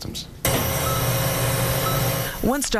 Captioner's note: machine beeping